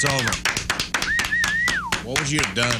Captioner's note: audience Applauding